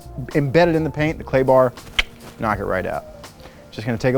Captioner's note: clicks